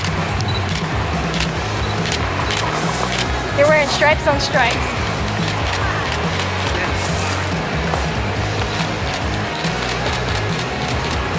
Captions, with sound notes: (camera shutter clicking) (camera beeping) You're wearing stripes on stripes.